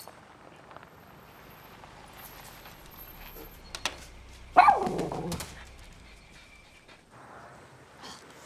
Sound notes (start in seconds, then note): 4.5 Millie barks